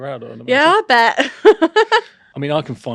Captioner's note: laughs